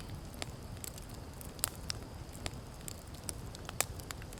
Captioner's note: fire crackling